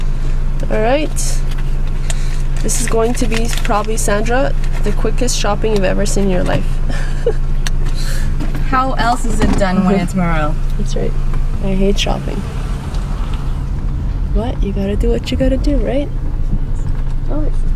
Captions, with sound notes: All right. This is going to be probably, Sandra, the quickest shopping you've ever seen in your life (laugh) - How else is it done when it's Maral - That's right. I hate shopping. But you got to do what you got to do right ?